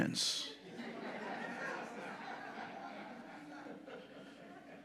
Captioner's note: audience laughing